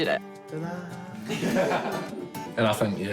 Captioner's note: laughter